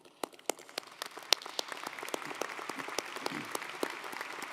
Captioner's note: audience applauding